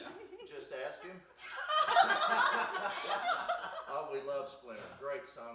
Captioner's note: group laughs